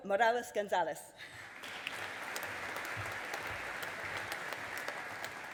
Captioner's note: audience applauding